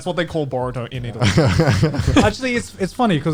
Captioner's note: guys laughing